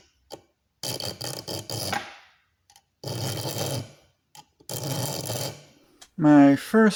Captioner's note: filing sounds